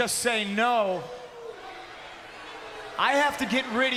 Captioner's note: crowd boos